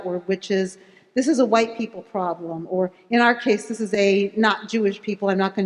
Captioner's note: none